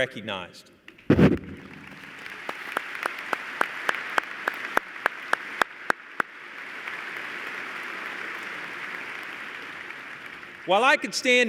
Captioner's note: applause